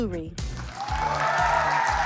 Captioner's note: applause